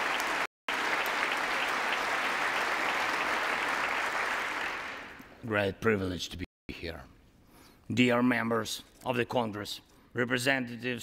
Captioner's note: applause